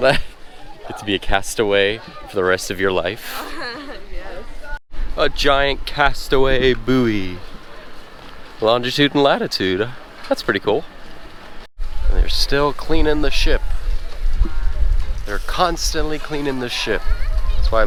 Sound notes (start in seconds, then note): 3.3 laughing